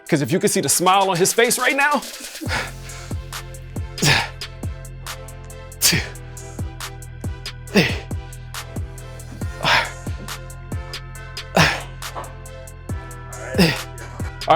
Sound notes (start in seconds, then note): 2.4 upbeat music; 4.1 Jay breathing deeply